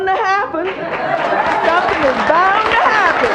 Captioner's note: audience laughs